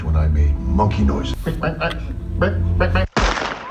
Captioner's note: monkey noises